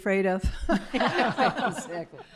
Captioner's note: laughter